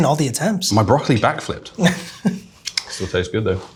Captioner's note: chuckles